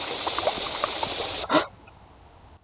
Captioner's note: gasp